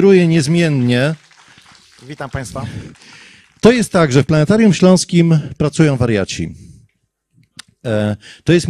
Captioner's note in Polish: oklaski